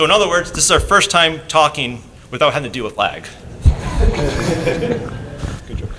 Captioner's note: laughter